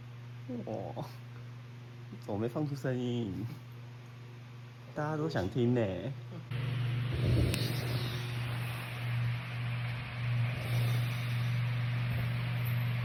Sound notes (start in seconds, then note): 7.0 sounds of snoring